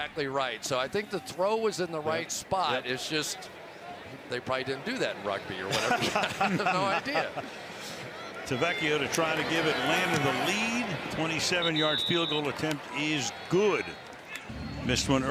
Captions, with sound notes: That's exactly right. So I think the throw was in the right spot. It's just they probably didn't do that in rugby or whatever. [laughs] They had no idea. Tavecchio to try to give Atlanta the lead. 27-yard field goal attempt is good.